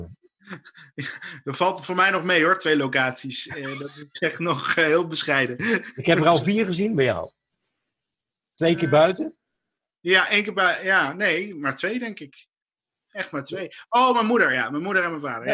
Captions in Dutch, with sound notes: (gelach) V alt voor mij nog mee hoo, r twee locatis. Dat is s nog heel bescheide. Nou iik heb er al vier gezien bij jo!u Twee keer buiten? Ja, maar twee denk ik? Echt maar twee. Oh ja. Ja, mijn moeder en bij mijn vader.